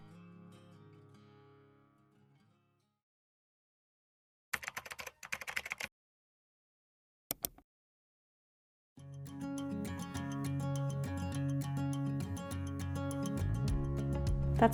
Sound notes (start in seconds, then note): 4.5 keyboard clacking; 7.3 mouse clicking; 8.8 gentle music